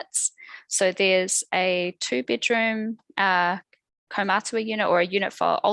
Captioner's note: non-english speech